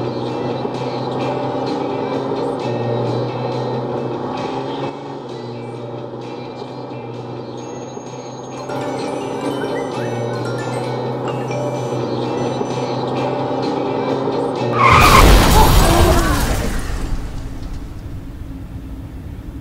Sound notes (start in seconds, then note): 8.6 phones ringing; 14.7 car crash